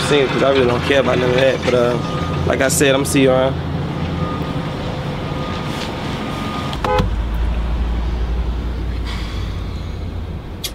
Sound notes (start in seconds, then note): 6.4 horn honking